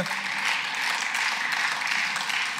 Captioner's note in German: Beifall